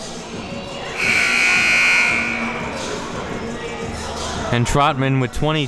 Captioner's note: buzzer buzzing